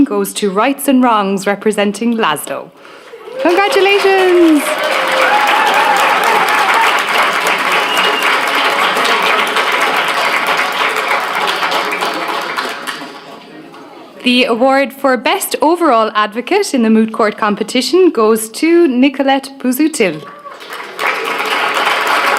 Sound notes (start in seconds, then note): 5.6 applause; 20.2 applause